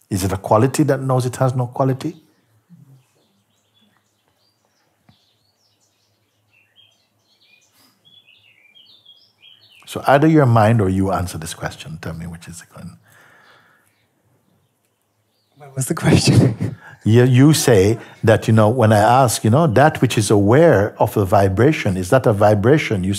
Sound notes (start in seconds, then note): 15.6 lacht